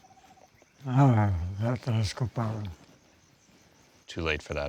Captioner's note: speaking Spanish